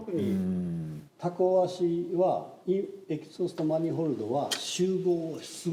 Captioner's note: speaking in Japanese